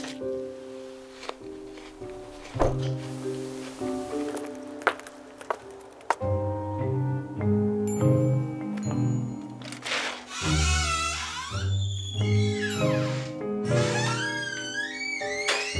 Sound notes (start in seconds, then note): 2.7 door bangs; 9.7 door squeaking